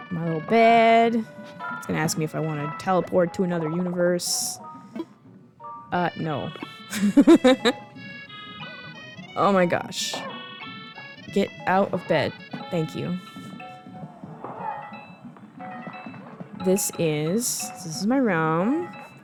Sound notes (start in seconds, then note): 6.5 laughing